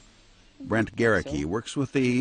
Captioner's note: voiceover